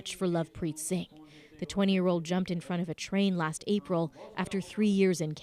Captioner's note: speaking Foreign Language